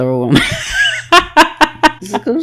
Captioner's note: laughs